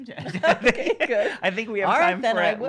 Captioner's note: laughter